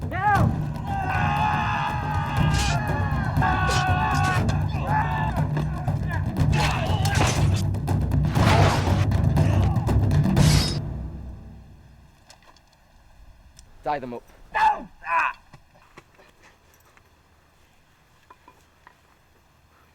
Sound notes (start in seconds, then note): 0.2 yelling; 6.5 knives squelching; 6.7 metal clanking